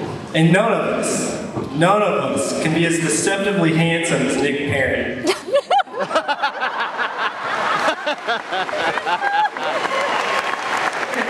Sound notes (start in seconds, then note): 5.2 laughter